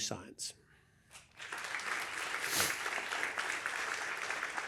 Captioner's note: applause